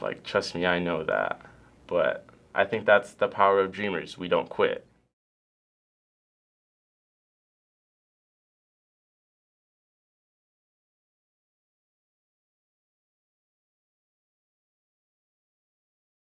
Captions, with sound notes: Trust me, I know that, but I think that's the power of Dreamers-- we don't quit. (silence)